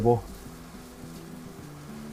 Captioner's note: eggs gently sizzling